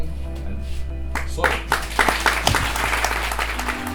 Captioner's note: applause